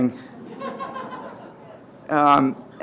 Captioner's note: audience laughter